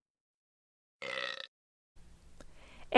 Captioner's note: burps